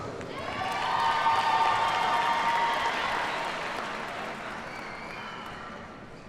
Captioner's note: audience cheers and applauds